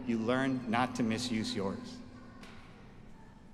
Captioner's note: none